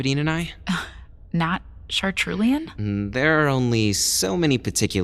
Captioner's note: confused